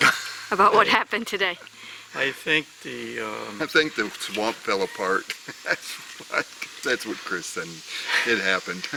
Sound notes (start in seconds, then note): 0.9 laughs